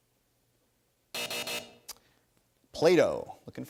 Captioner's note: buzzer